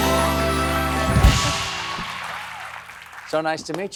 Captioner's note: cheers and applause